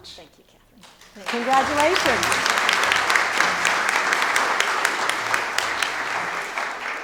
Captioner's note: audience applauding